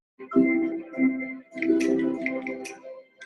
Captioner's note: menu selector clicking